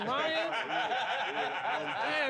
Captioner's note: all laughing